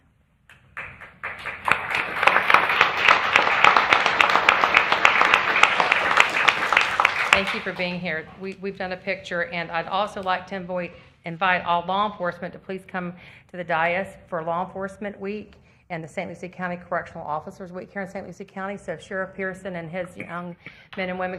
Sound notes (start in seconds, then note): 4.8 applause